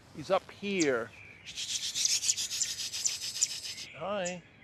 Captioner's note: imitating birds